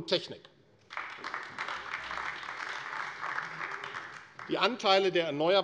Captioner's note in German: Beifall AfD